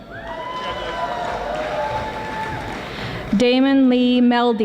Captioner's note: audience applauding